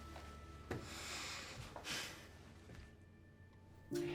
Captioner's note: sighs